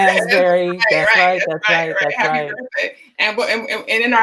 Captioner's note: in Unison